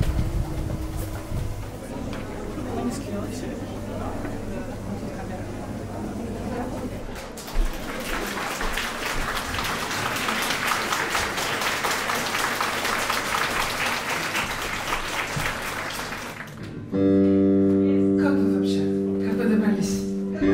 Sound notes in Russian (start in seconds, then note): 7.1 аплодисменты